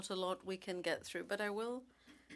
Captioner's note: speaking French